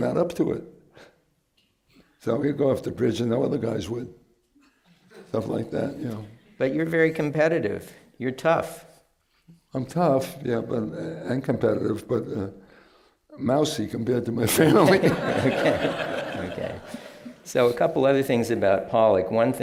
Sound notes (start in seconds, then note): 14.5 laughter